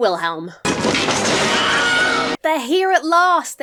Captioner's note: wood cracks; dramatic music